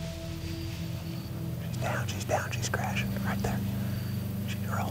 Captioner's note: whispering